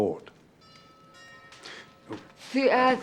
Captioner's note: doorbell rings